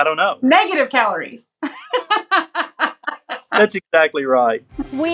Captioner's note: laugh